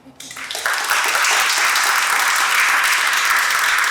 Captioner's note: audience applauds